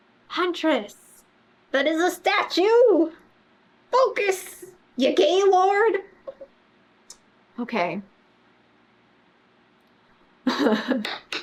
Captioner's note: laughs